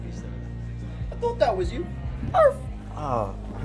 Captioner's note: imitates dog bark